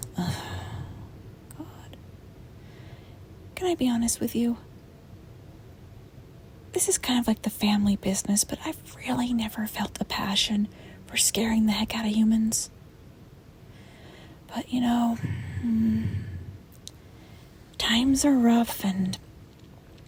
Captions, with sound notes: Augh... ...God... Can I be honest with you? This is kind of like the family business... But I've really never felt the passion... ... for scaring the heck out of humans. *sighs* But, you know,... *sighs*... Hmm... *smacks lips* ... times are rough and...